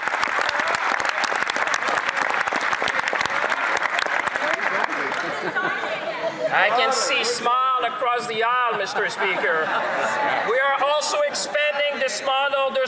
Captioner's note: some Applause